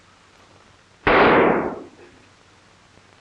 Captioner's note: gunshots